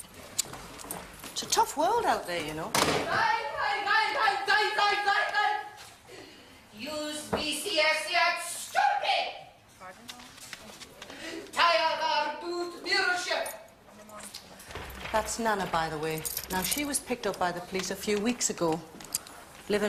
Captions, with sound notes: It's a tough world out there, you know. (SHOUTING GIBBERISH) (SPEAKING GIBBERISH) (SPEAKING GIBBERISH) That's Nana, by the way. Now, she was picked up by the police a few weeks ago.